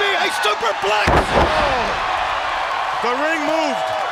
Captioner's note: crowd cheering; wrestlers thudding on ring